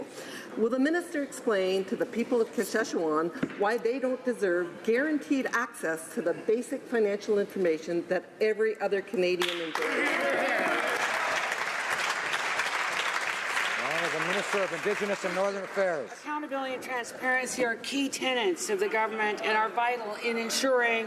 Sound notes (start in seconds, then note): 13.8 some Applause